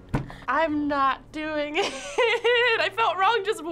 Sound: laughing

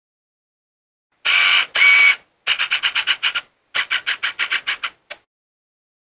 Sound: sound of camera

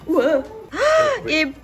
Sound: gasps

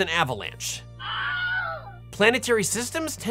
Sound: scream

